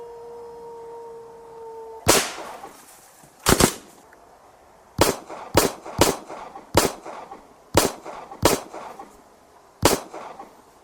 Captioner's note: howling wolf; gunshot noises